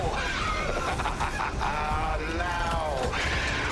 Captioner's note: laughs